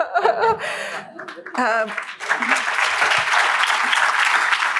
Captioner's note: applause